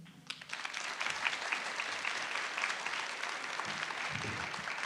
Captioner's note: audience applauds